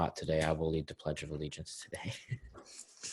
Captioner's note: chuckles